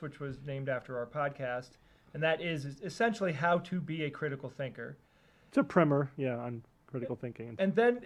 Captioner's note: none